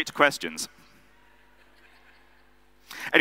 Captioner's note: audience laughing